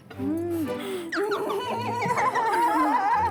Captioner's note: laughing